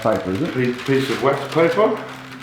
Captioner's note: paper rustles